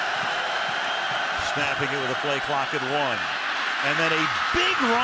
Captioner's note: pa announcement